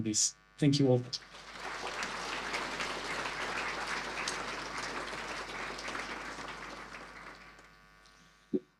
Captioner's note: audience applause